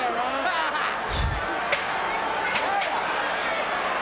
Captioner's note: Jim laughs